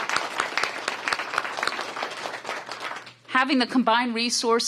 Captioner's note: applause